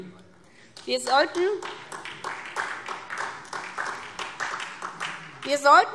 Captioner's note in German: Vereinzelter Beifall SPD